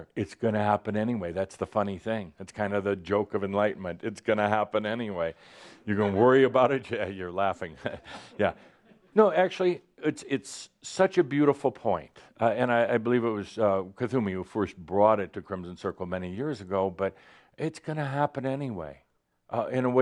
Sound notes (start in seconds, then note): 5.3 some chuckles